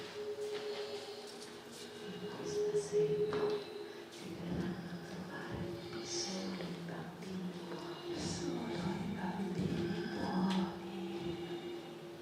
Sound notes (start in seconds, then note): 1.9 whispered voices